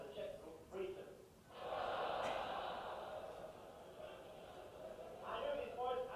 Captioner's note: audience laughter